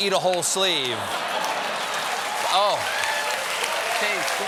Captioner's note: cheers and applause; laughter